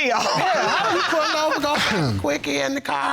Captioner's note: all laughing